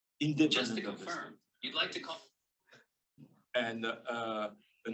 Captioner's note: voiceover